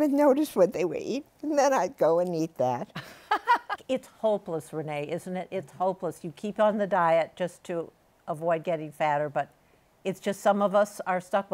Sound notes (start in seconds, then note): 3.0 laughs